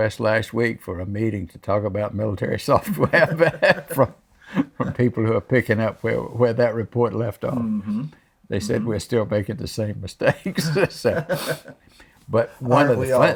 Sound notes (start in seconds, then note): 2.8 laughs; 10.4 laughs